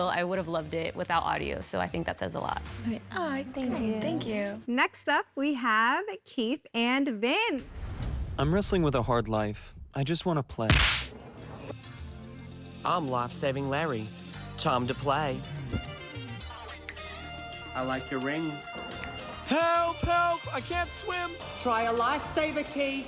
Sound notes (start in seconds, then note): 10.6 smack